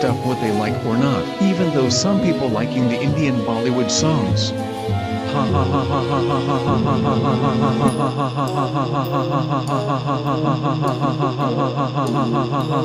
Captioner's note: laughs